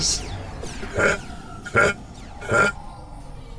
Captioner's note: laughs